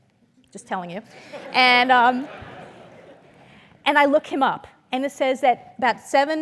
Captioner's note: laugh